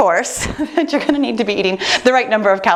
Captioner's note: chuckles